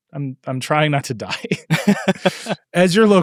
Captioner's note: laughing